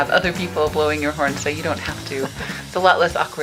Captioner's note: laughing